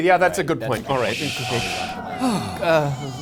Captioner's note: genie sighing